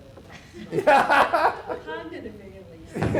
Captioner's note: laughter